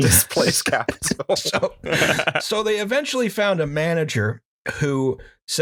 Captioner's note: laughter